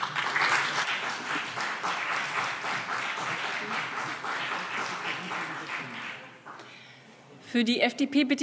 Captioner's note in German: Beifall BÜNDNIS 90/DIE GRÜNEN und CDU